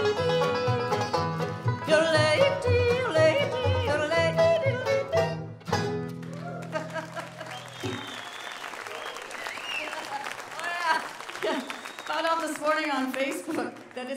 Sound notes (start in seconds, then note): 6.1 audience cheers and applauds; 6.4 laughing